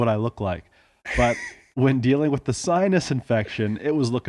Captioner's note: laughing